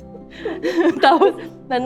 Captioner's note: giggles